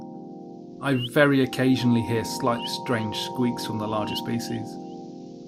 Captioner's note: squeaking bat calls